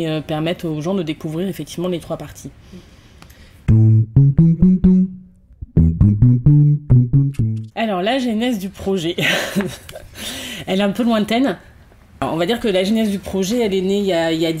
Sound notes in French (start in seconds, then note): 9.2 rires